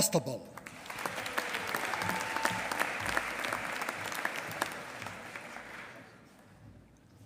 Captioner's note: applause